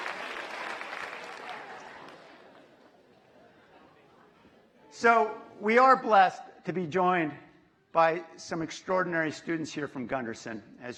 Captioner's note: cheers and applause